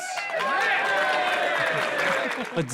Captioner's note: all cheer